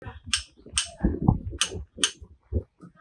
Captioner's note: sound made by the hammer